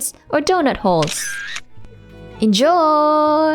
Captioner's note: camera click